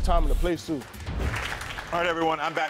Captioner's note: audience applauding